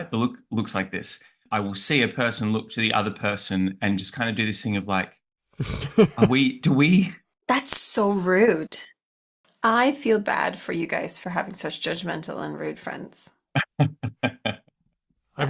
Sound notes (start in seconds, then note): 5.6 laughs; 13.5 laughs